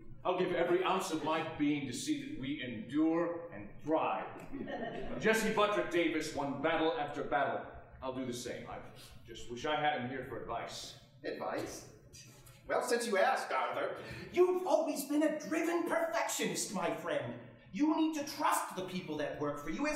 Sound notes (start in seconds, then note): 4.4 audience chuckling